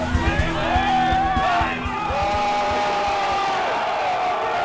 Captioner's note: cheering